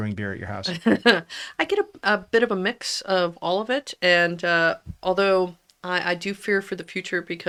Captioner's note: laughs